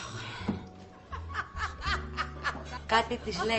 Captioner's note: vicky laughs